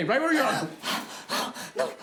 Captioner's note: Susan pants